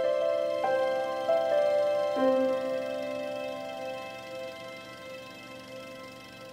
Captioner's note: sound of runnung projector